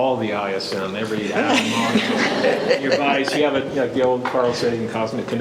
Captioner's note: panelists laughing